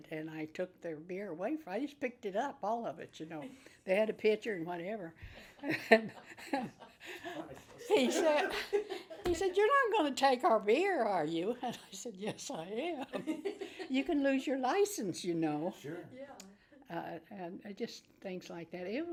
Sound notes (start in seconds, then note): 5.4 everyone laughs